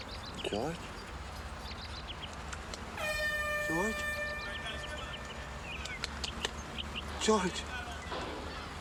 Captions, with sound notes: George? [ Horn blowing ] George!